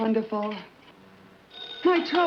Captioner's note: phone Rings